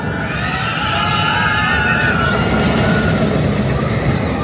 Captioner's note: guests screaming